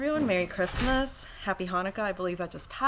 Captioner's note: door slams